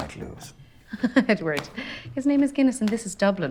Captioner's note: chuckles